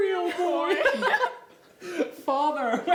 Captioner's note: laughing